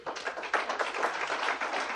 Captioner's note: applause